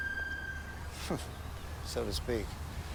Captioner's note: scoffs